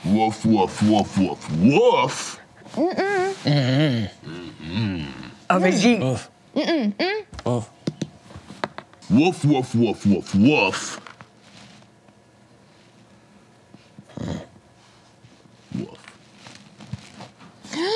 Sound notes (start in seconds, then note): 3.4 grunts negatively; 3.5 grunts affirmatively; 5.7 grunting